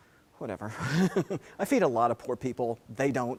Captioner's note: laugh